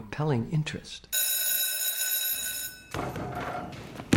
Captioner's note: bell rings